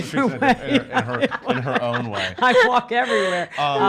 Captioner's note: laughs